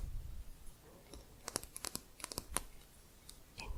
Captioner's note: quick tapping